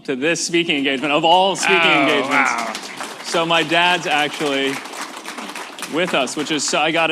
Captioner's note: applause